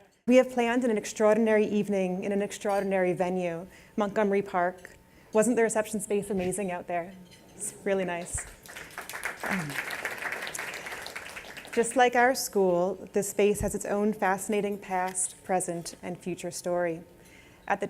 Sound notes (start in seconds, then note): 8.4 applause